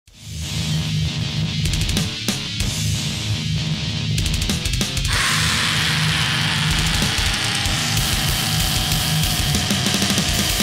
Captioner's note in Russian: гроул